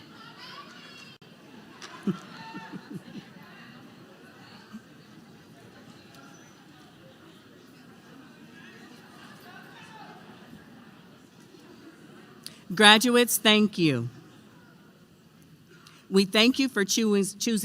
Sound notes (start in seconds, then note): 0.7 applause